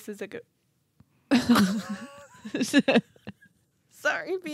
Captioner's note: laughing